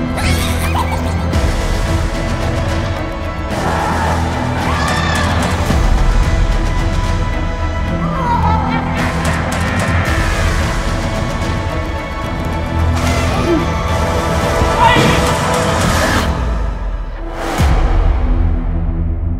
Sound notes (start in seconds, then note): 0.1 dark laugh; 3.6 screaming